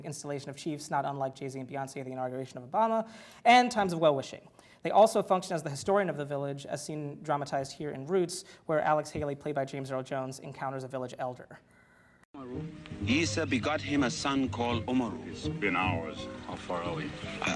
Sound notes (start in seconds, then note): 14.2 foreign language